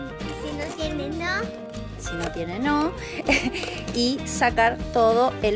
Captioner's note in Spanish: voz de niño